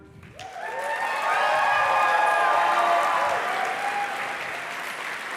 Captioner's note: applause